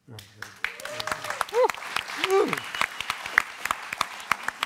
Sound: applause

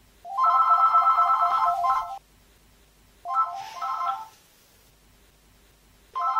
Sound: phone rings

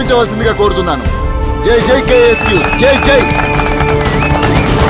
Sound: applause

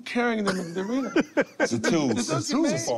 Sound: laughs

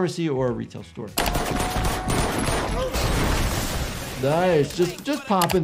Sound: gunshots firing again

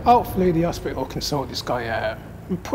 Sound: none

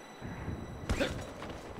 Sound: grunt

